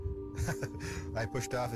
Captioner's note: laughs